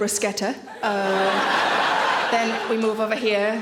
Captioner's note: audience laughing